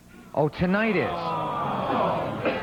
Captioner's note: audience sad noises